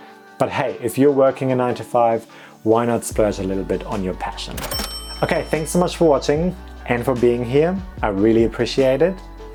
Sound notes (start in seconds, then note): 4.5 cash register dings